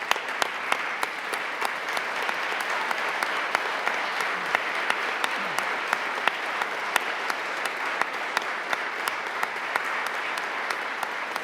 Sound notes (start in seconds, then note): 3.2 applause